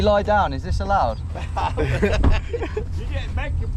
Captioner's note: everyone laughs